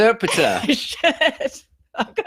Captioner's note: laughing